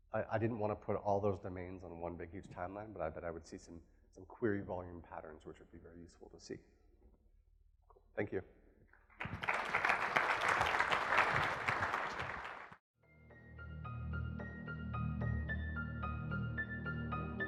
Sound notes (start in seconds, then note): 9.1 applause; 13.3 piano music